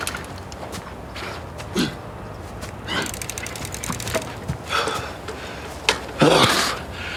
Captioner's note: pills rattling